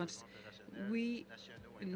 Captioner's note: speaking French